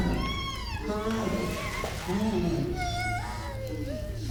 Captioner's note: fire crackling